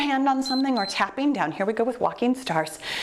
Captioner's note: timer beeps